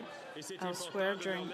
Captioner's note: speaking French